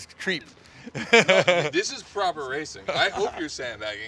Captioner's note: laughing